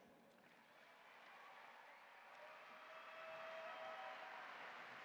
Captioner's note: audience applauding